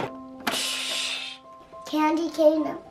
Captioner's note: imitates sound of gas being turned on